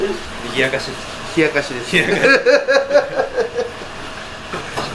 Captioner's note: laughs